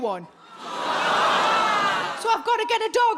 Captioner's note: audience groaning